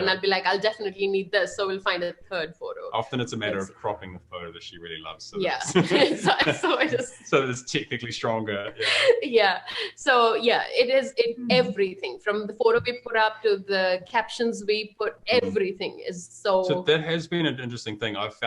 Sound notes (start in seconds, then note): 2.9 chuckles; 5.4 both laughing; 8.4 gasps